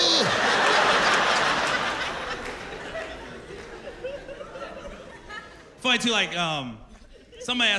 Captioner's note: laughter